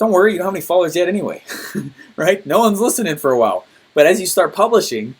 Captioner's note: laughs